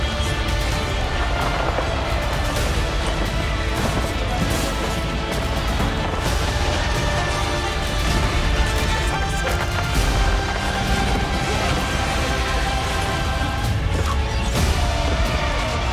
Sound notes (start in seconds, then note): 1.0 yelling and explosions